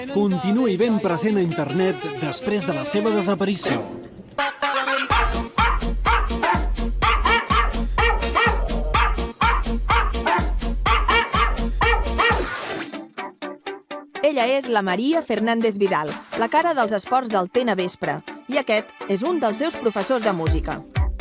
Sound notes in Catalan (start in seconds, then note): 6.4 lladrucs al to de la música